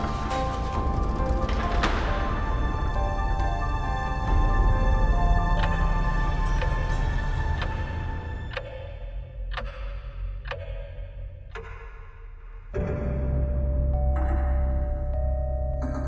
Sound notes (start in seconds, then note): 0.1 suspenseful music continues; 9.3 clock ticking; 12.8 suspenseful music